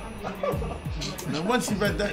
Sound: laughing

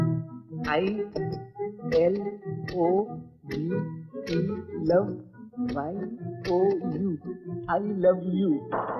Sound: typewriter keytop clacking

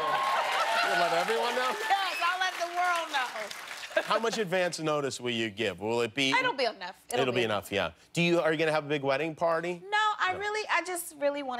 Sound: cheers and applause

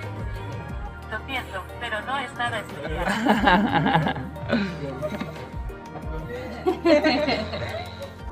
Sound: laughs

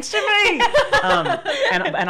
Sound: laughing

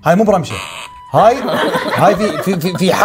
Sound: laughter

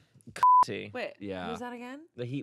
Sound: beep

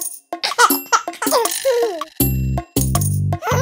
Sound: playful music; chuckling

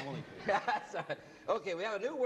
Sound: laughs

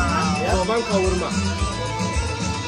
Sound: speaking Turkish

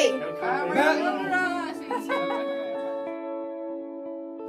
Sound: laughing

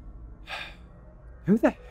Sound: sigh

